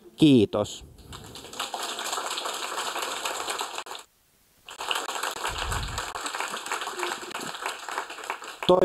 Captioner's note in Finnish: Aplodeja